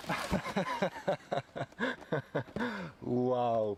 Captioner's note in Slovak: smiech